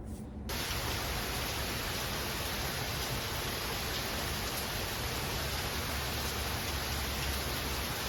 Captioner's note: rain sounds